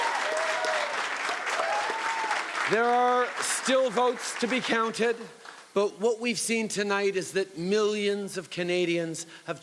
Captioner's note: cheering and Applause